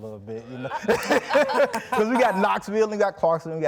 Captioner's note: people laughing